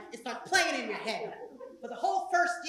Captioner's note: laugh